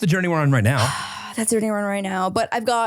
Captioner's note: sighs